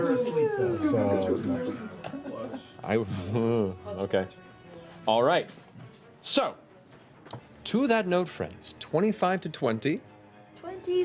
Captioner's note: concerned sound